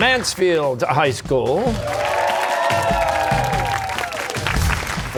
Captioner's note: cheers and applause